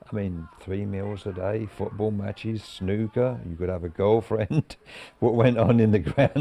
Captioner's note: chuckles